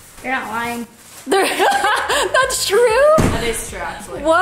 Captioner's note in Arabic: يضحك